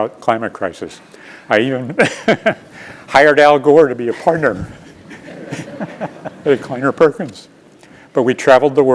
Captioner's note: laugh